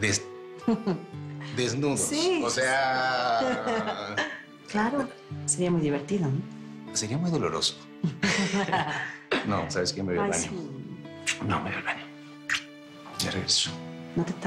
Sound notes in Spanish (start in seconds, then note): 0.7 Risas; 3.3 Risas; 8.0 Risas